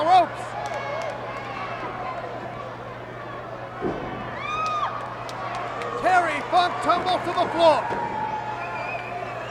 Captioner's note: applause; applause